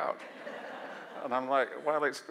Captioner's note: audience laugh